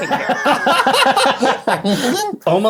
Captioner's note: men guffaw